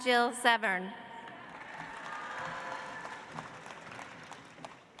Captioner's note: audience applauds